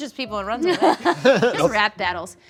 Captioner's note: laughing